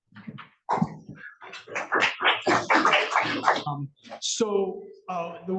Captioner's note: audience applauds